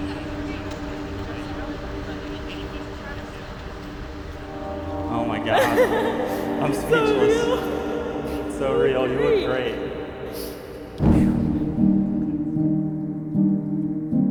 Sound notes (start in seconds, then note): 5.3 chuckling